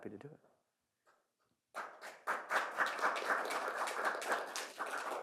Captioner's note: applause